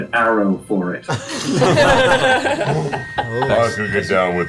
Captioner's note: all laugh